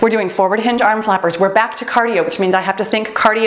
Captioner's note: timer beeps